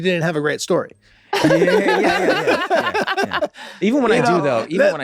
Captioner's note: everyone laughs